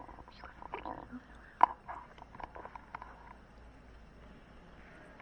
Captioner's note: teenagers whispering